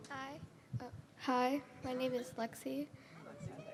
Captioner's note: microphone adjustment